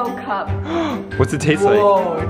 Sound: gasps

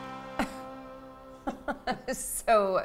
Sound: Siri laughs

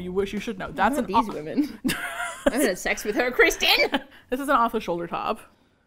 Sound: laughs; playfully defensive

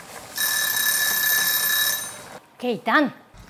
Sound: timer ringing

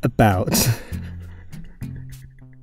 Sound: laughter

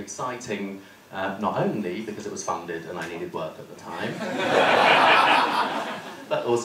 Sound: laughter

